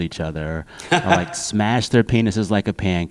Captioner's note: laughter